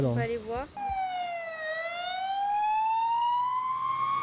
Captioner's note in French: sirène de police